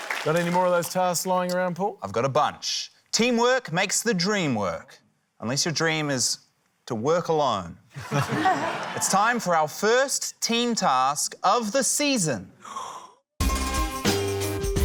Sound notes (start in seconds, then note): 7.9 laughter; 12.6 inhales sharply; 14.6 intriguing music